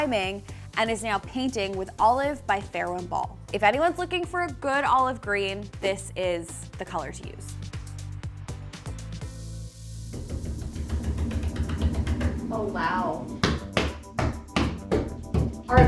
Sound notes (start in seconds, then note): 7.6 upbeat music; 10.2 knocking